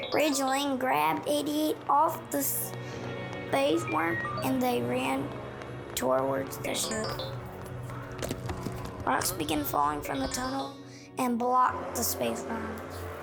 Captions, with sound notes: Ridge Lane grabbed 8E8 off the space worm, and they ran towards the ship. (robot beeping) Rocks begin falling from the tunnel, and blocked the space worm.